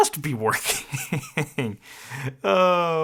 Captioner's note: laughing